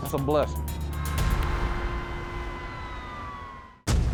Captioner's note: emergency sirens